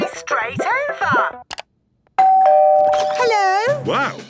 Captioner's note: doorbell ringing